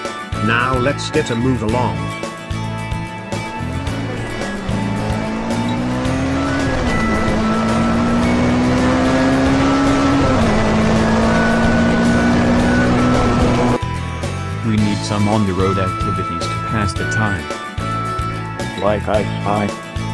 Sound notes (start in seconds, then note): 3.0 car accelerating